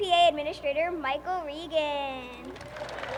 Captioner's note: applause